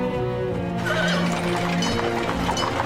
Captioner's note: horse neighing